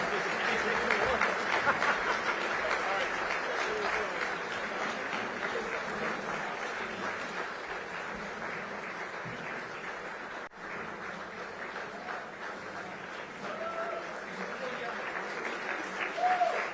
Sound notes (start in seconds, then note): 4.0 applause